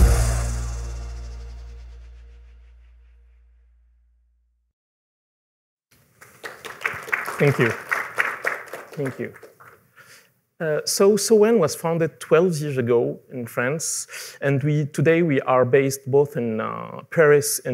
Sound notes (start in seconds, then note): 6.1 applause